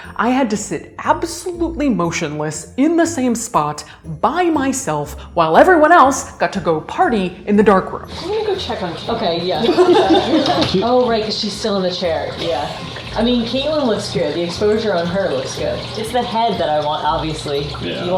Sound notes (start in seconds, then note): 9.6 laughing